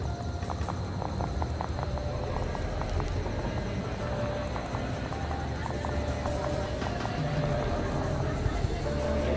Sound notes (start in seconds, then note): 1.8 people chattering